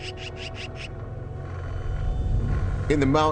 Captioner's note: bird softly cawing